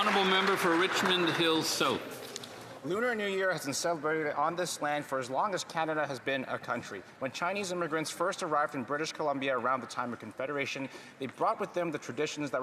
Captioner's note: applause